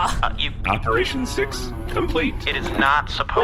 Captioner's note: Another zap. Dar moans